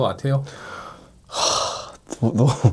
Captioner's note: sigh